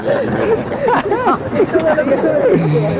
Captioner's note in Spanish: Risas